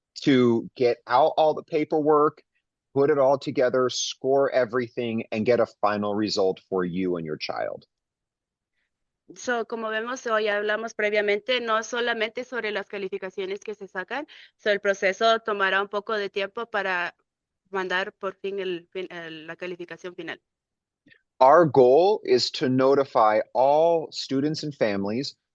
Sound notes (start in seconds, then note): 9.3 speaking in Spanish